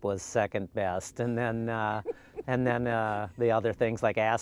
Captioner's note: laughing